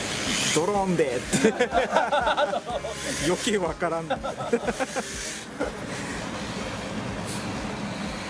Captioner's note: laughs; laughs